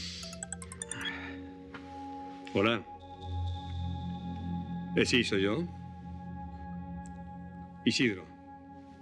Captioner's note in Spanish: suena el celular